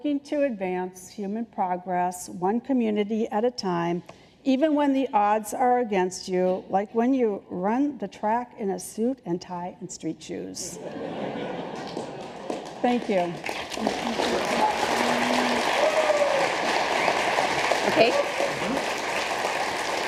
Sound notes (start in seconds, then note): 11.6 applause